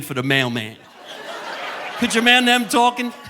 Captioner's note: audience laughing